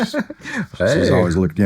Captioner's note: laughing